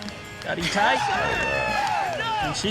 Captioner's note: all cheering